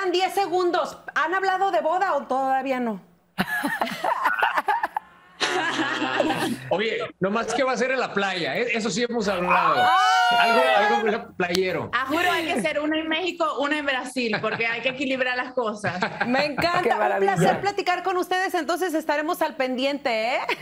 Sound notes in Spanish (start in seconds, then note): 13.0 risas